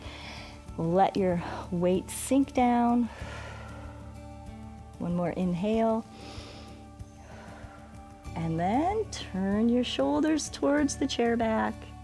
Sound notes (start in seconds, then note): 3.1 exhales; 6.1 inhales and exhales